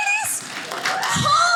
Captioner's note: audience laughing